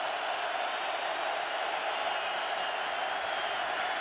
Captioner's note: crowd cheering